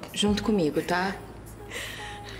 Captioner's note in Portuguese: valentina respirando tensa